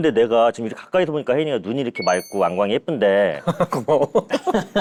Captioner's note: sparkle